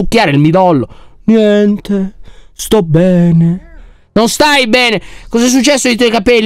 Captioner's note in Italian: tono moribondo